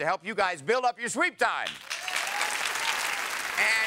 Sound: audience applauding

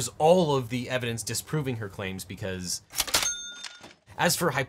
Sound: cash register ringing

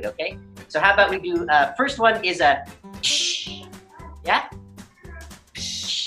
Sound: cchh

